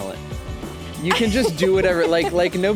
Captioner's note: laughs